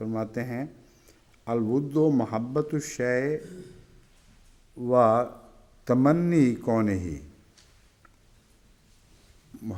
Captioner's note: Arabic